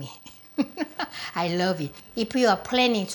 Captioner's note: laughing